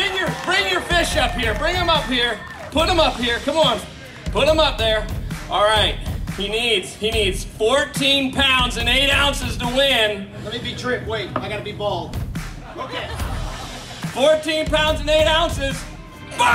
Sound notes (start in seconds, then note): 12.5 laughing